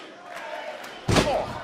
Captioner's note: crowd cheering